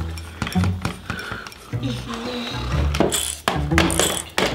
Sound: wrench Noises

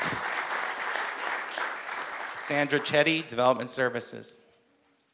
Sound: applause

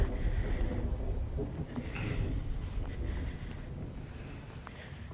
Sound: thunder storms

